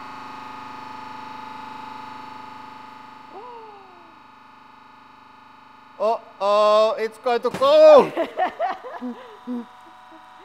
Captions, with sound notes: Oh-oh it's going to go! (Popping sound) (Laughs)